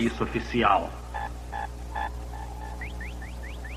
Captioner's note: beeping